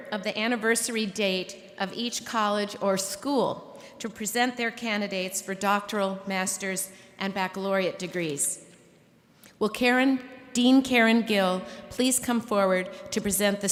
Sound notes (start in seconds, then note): none